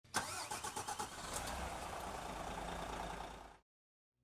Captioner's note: engine starting up